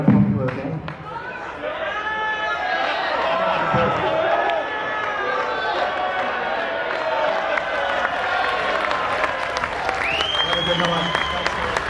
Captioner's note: crowd Cheering